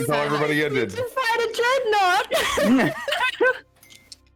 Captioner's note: giggles; laughs